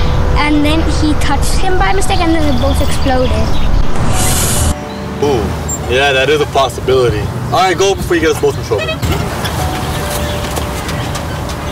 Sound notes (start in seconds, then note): 4.2 inhales sharply